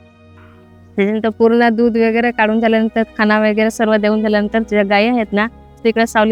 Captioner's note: in Marathi